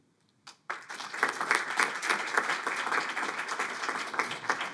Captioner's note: audience applauding